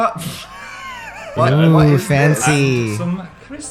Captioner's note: laugh